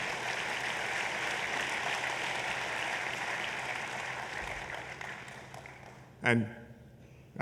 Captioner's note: applause